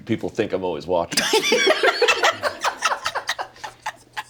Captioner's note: all laugh